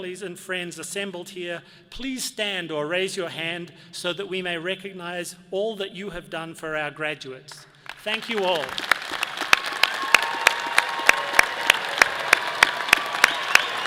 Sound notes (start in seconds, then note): 7.8 all applauding